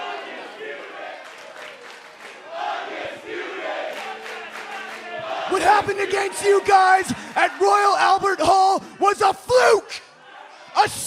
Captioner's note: fans chanting